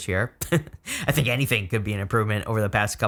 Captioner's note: chuckles